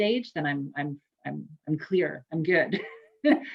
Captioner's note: laughs